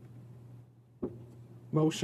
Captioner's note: speaking in French